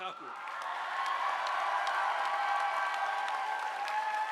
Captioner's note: audience applauding